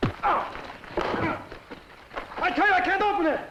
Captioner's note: grunts